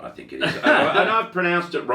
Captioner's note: laughing